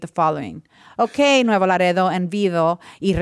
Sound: speaking foreign language

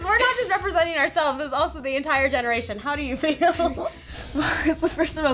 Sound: laughs

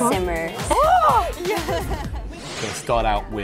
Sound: laughing

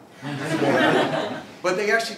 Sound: laugh

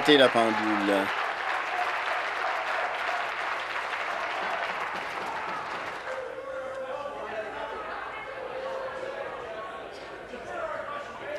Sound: applause; cheers

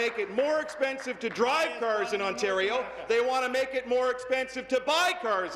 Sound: applause

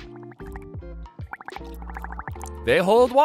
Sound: gurgling

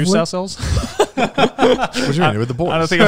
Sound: laughing

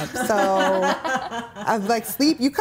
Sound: laughing

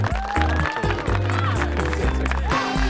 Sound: applause; cheers

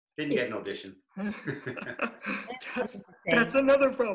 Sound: laughter

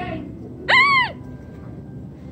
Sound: screams

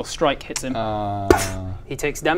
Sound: poof

